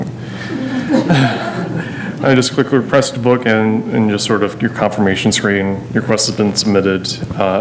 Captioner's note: laughter